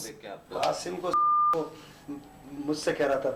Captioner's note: speaking hindi